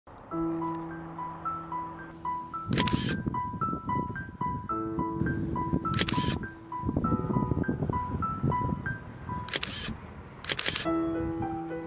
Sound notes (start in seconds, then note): 0.8 suspenseful piano music; 2.7 camera clicking